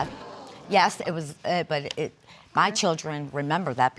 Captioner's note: stuttering